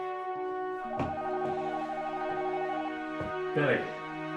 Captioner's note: phone ringing